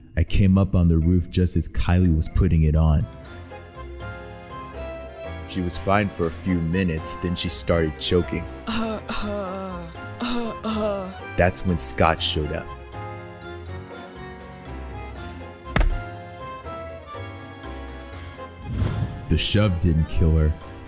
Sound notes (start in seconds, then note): 8.6 Kylie choking